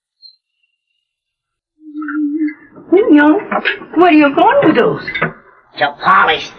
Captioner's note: humming